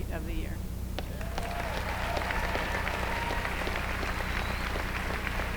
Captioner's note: applause